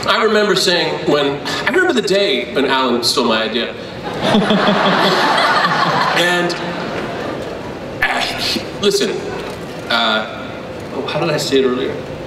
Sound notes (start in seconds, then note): 4.0 crowd laughs